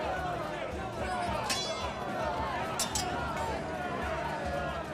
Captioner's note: crowd shouting